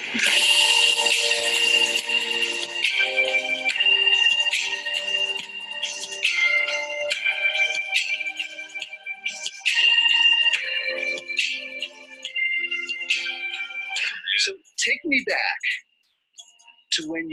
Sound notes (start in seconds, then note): 3.9 upbeat music; 14.0 laughs